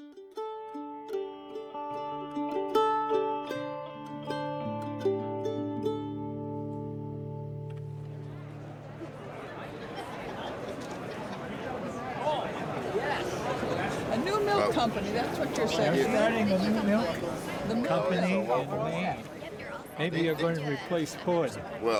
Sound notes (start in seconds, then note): 0.2 gentle music; 8.5 people chatting